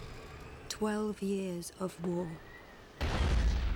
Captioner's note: woman Narrating